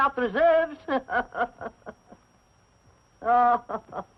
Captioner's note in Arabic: يضحك